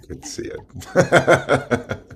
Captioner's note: laughs